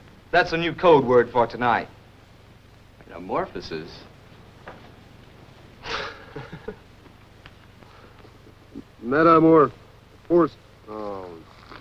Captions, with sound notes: That's a new code word for tonight. - Metamorphosis? [chuckles] - Metamor.. phos.. oh.